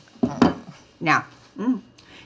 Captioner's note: Dory groans